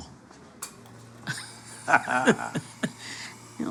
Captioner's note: both laugh